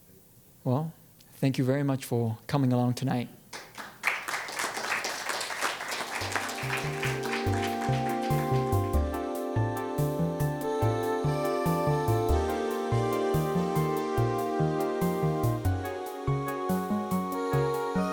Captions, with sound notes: Well, thank you very much for coming along tonight. (audience applauds) (ethereal music)